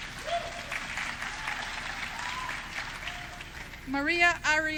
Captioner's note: audience clapping